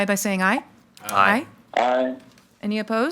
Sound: in Unison

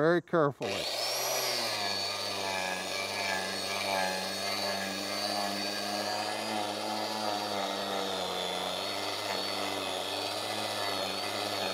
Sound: grinder machine sound

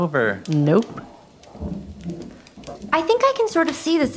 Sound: footfall

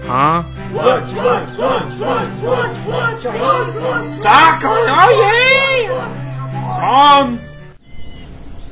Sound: kids shouting

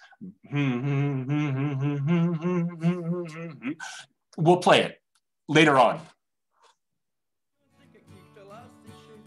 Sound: humming

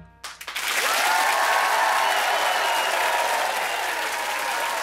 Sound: audience cheers

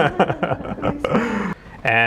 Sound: laughing

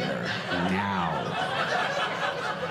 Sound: audience laughing

